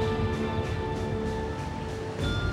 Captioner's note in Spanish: sonido del motor